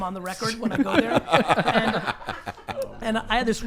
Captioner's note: all laugh